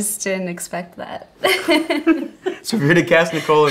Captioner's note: laughing